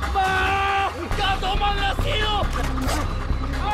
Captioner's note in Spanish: Gritos